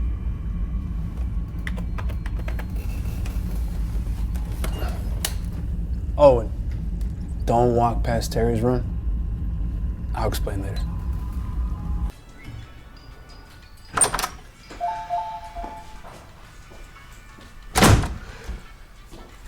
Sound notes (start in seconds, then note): 12.0 soft music; 13.5 door opens, closes